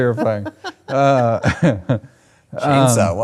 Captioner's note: laughs